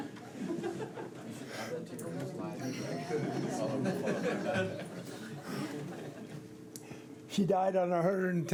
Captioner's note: laughter